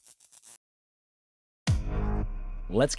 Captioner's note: dramatic music; electricity buzzing